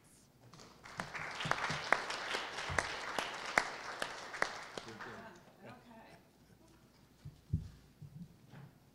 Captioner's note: applause